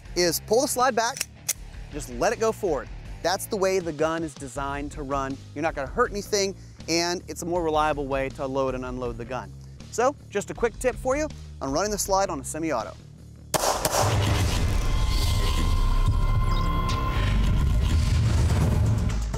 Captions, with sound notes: is pull the slide back, just let it go forward. That's the way the gun is designed to run. You're not gonna hurt anything, and, it's a more reliable way to load and unload the gun. So, just a quick tip for you, on running the slide on a semi-auto. (gunshots) (digital music)